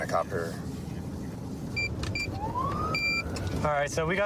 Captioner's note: buttons beeping